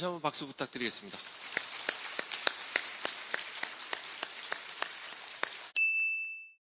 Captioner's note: applause; 박수